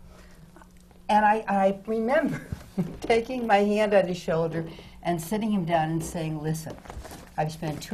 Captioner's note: laughs